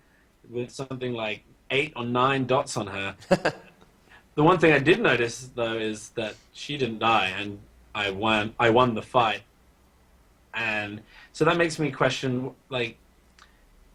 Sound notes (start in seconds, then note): 3.1 laughs